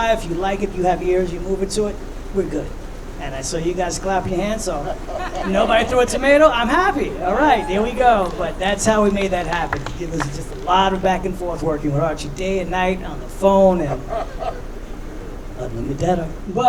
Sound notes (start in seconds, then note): 5.0 laughing; 8.1 audience cheering; 14.1 laughing